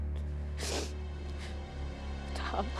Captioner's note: sniffs